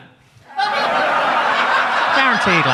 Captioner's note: audience laughs